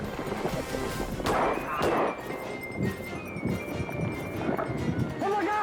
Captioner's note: gun firing; suspect yelps